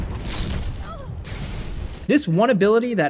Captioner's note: Vyrthur grunting